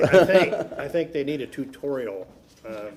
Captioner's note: laughter